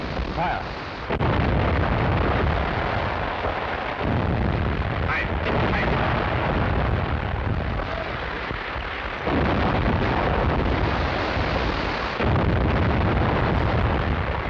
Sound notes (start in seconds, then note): 1.0 cannon firing; 4.7 speaks in foreign language; 9.2 cannons firing